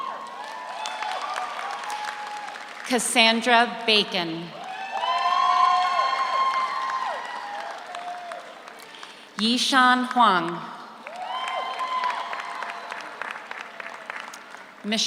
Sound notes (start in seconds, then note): 0.0 audience cheers; 0.0 audience applauds; 4.5 audience cheers; 4.6 audience applauds; 11.0 audience applauds; 11.0 audience cheers